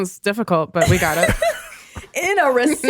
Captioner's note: laughs